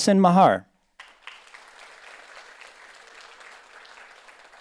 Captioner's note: audience applauds